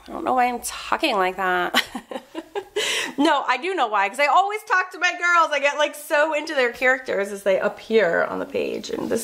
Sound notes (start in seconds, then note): 1.7 laughs